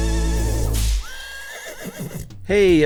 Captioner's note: horse whinnies; whip cracks